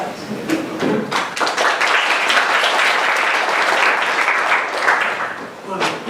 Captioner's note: applause